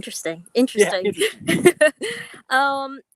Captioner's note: laughs